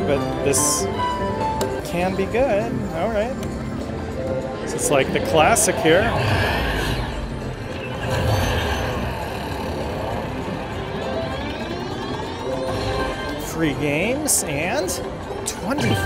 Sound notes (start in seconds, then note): 8.0 wheel spinning